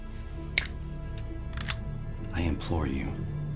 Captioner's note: finger snaps